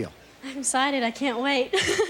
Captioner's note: giggling